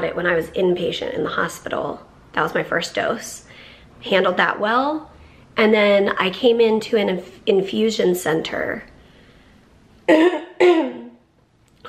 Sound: clears throat

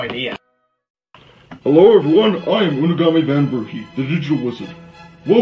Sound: on TV

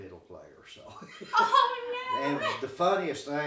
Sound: chuckling

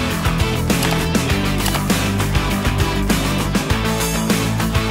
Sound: mouse clicking

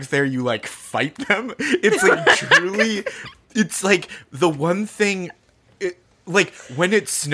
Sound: laughing

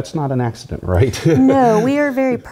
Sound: laugh

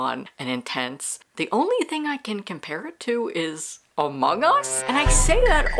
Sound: Among Us sound

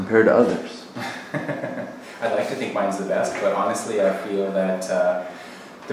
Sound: laughing

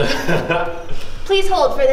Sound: laughs

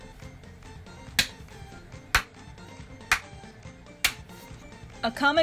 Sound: clapping in the background

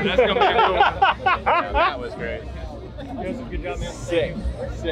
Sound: man laughing

